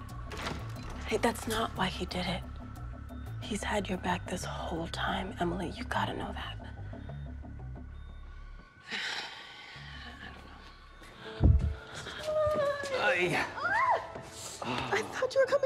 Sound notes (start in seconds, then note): 7.7 sighs